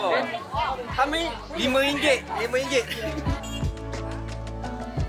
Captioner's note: laugh